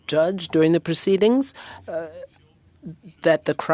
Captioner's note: speaking French